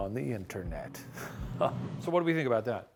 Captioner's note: chuckles